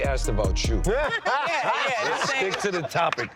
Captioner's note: all laugh